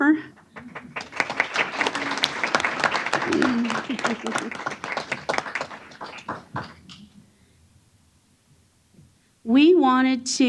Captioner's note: applause